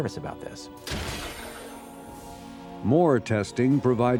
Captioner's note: loud bang